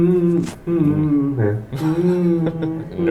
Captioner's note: laughs